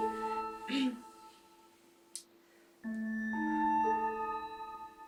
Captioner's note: Hannah clears throat